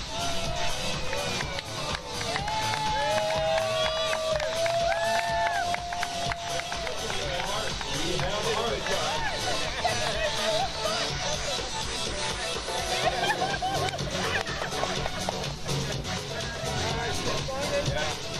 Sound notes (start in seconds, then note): 0.2 upbeat music; 3.0 crowd cheers and applauds; 9.0 woman laughs and chatters